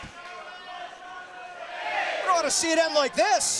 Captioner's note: crowd chatter